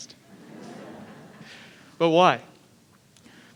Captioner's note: audience laughing